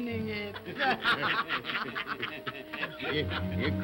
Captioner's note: all laugh & cackle